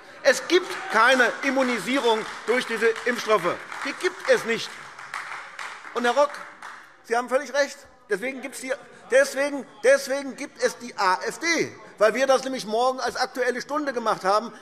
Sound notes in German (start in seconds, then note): 3.6 Beifall AfD